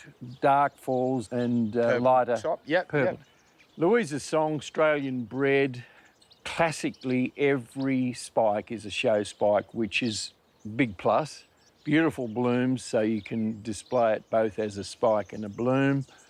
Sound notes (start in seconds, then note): none